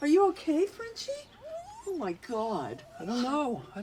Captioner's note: Frenchie whimpers